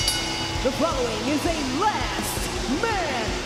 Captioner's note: bell ringing